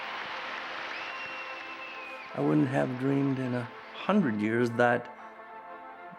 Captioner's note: audience applauding